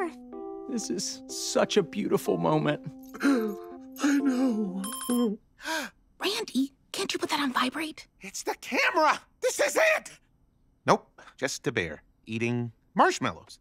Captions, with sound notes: This is such a beautiful moment. I know. [chiming] [gasping] Randy, can't you put that on vibrate? It's the camera. This is it. Nope, just a bear eating marshmallows.